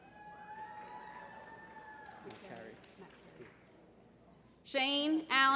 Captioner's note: applause